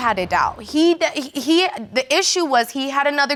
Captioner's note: stammers